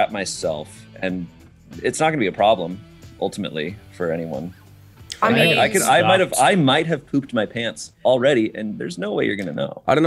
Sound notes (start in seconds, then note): none